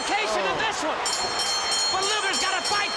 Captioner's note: bell dinging